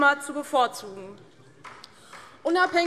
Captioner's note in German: Beifall DIE LINKE